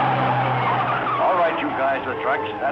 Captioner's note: tires screeching